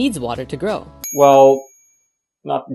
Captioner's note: ding!